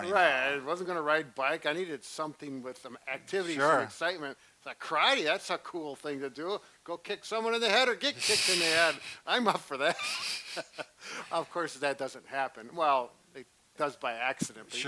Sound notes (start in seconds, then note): 9.9 laughs